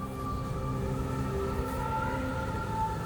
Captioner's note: heavy winds